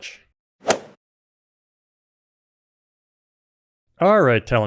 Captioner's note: golf swing sound effect